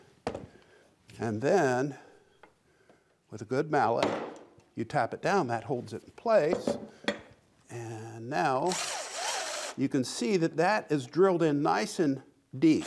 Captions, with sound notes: And then with a good mallet, you tap it down. That holds it in place. And now (drill whirring) you can see that that is drilled in nice and deep.